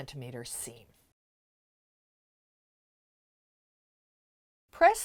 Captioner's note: no Sound Present